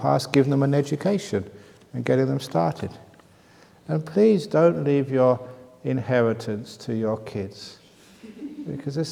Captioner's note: laughs